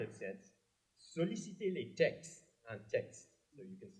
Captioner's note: french